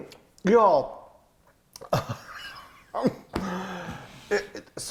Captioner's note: both laughing